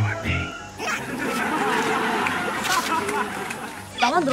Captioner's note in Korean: 자꾸 들리는 문명의 소리ㅋㅋㅋ